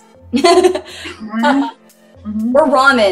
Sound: Brenda and Esther laughing

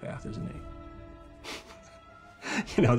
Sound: chuckles

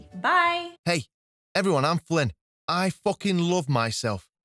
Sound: flippant Male Voice

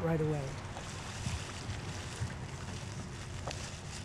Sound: rustling flowers

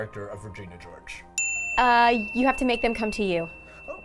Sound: bell dings

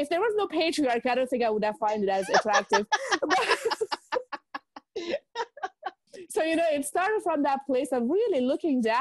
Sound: laughing

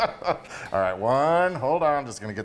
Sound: laugh

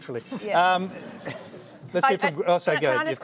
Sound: laughter

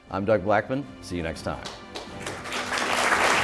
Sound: applause

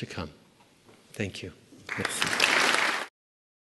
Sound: applause

